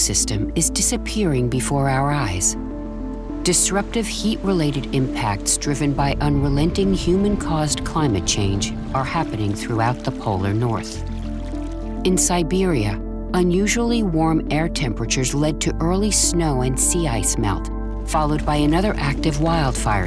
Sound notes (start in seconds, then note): 10.5 gentle music; 10.5 water trickling